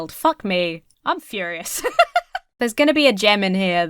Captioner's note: laughs